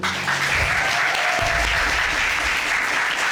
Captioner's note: audience cheers